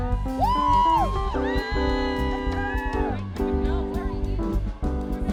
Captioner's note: students cheering and screaming